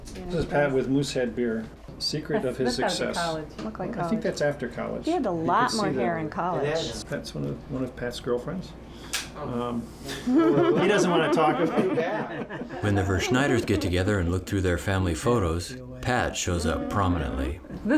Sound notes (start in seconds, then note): 5.1 family chatter; 10.1 laughing